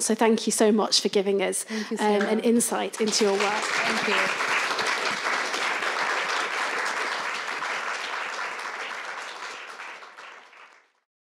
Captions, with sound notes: So thank you so much for giving us - Thank you so much. - an insight into your work. (audience applauding) - Thank you.